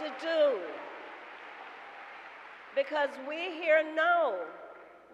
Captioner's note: applause